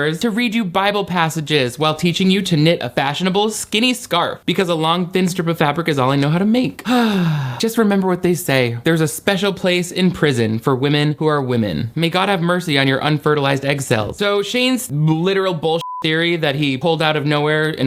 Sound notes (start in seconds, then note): 15.8 beep